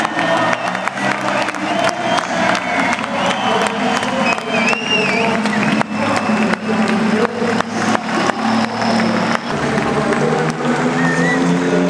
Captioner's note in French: Applaudissements